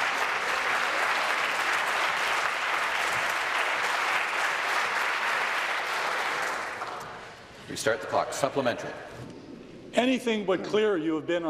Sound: applause

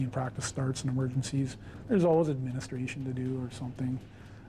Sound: voiceover

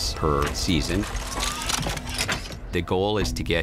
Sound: metallic sound as gun extends

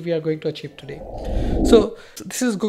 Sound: swishing effect

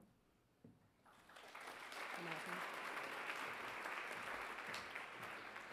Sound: audience applauds

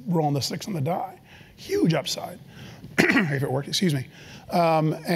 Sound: cough

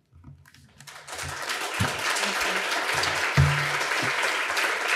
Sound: audience applauding

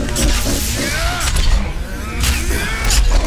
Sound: second rock alien laughs

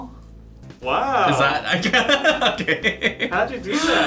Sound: laughs

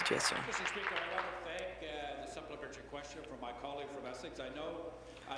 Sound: applause

